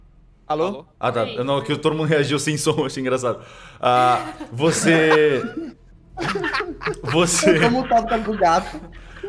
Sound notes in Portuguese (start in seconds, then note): 6.2 Todos riem